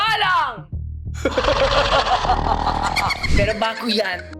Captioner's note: sinister laugh